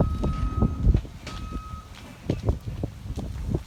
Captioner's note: Skidloader beeping